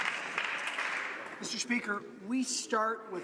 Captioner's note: some Applause